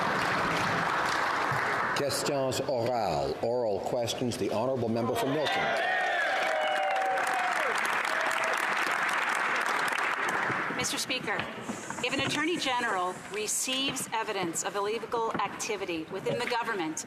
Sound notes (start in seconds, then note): 2.8 some Applause; 6.3 speaking French; 9.1 some Applause